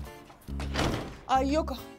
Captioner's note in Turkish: Kapı kapanma sesi